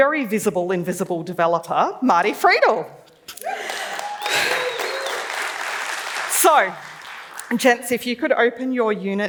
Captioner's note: cheering